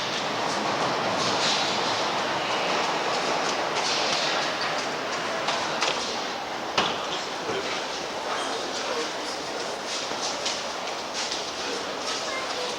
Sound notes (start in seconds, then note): 0.0 subway sounds